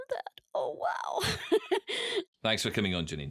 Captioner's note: laughs